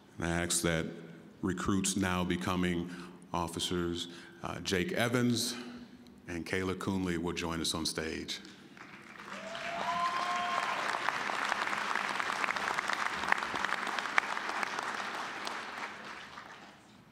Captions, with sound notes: And I ask that recruits, now becoming officers, Jake Evans and Kayla Kuhnley will join us on stage. (applause, cheering) (applause)